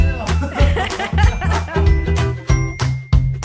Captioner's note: laughs